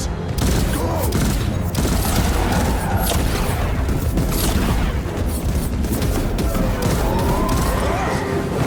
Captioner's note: screaming and groaning